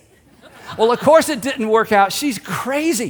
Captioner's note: congregation laughs